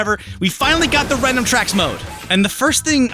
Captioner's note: crash!